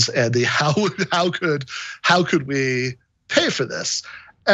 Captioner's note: laugh